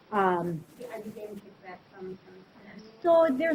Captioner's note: student speaking faintly